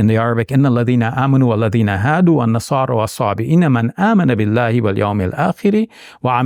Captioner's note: speaking in Arabic